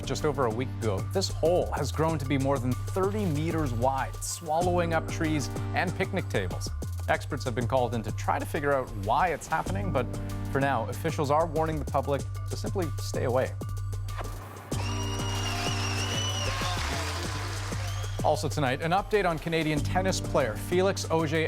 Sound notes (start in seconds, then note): 17.2 cheers and Applause